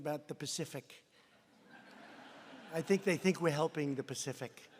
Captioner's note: laughter